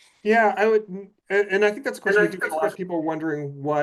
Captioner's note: faintly speaking